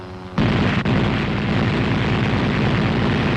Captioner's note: machine gun firing